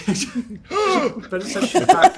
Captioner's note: shocked gasp